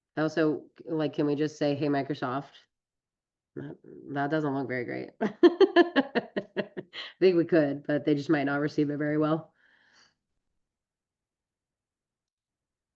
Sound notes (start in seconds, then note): 5.4 laughs